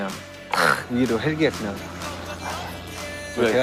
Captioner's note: helicopter flies over the stadium